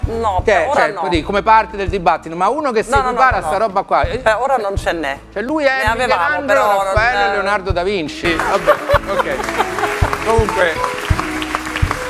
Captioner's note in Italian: Applauso